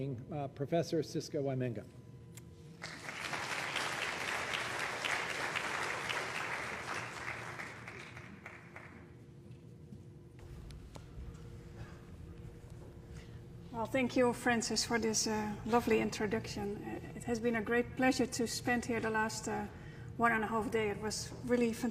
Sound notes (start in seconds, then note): 6.8 applause